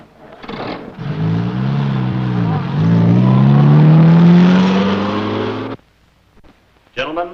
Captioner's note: engine running